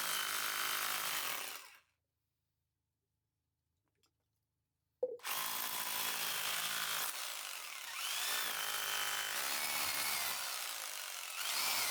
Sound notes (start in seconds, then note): 9.3 drilling sound